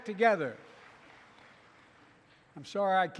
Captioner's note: applause